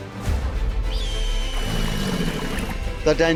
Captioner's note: bright upbeat music; birds squealing; crocodile growling